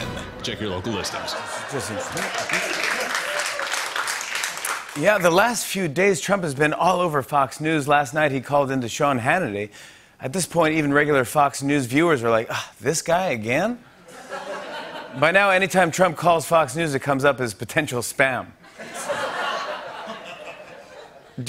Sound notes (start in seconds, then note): 0.9 laughter and applause; 14.0 laughter; 18.6 laughter